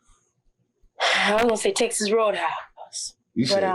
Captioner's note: sighs